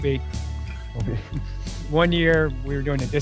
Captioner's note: chuckles